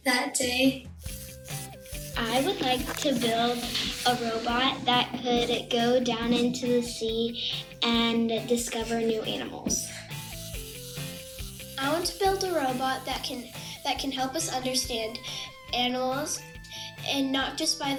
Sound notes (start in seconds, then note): 1.0 robot whirling; 10.0 robots whirring